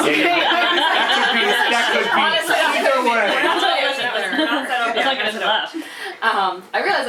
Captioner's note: laughter and crosstalk